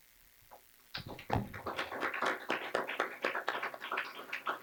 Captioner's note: clapping